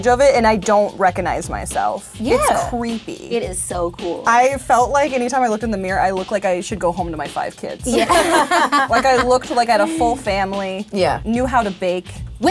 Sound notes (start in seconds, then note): 7.9 laughter